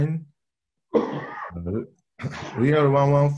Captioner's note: caughs